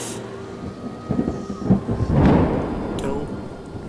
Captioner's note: storm raging